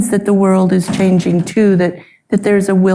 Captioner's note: door thudding